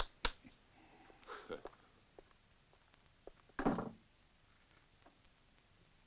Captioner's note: chuckles